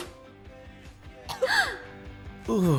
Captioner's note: Aileen gasps